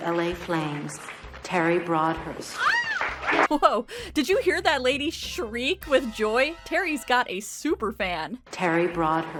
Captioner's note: woman Screams